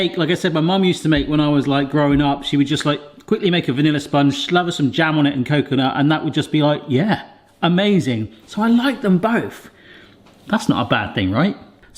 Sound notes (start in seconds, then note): none